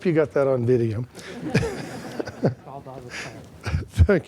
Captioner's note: laughter